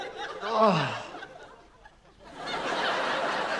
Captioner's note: laughter; groans; laughter